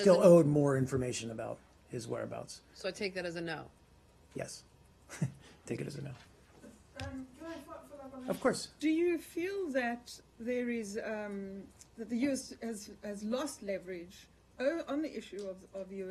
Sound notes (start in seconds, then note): 5.1 laughter